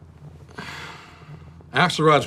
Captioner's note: Chuck sighs